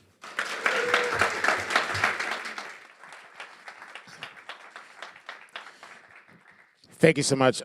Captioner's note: applause